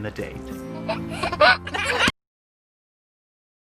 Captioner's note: laughter